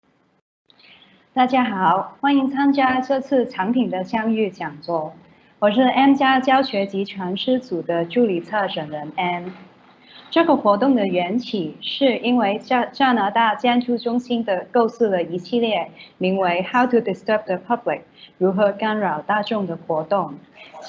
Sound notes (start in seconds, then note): 1.5 Mandarin